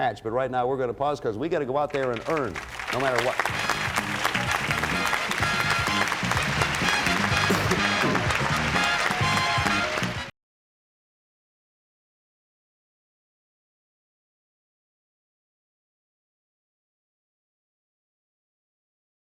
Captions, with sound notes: But right now we're gonna pause because we got to go out there and earn, no matter what. -(theme music playing) -(cheers and applause)